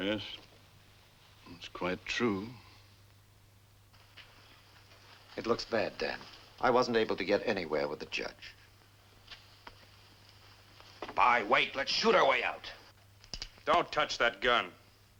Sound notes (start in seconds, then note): none